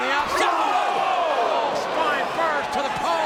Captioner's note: audience groans